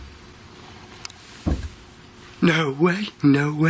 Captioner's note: loud bang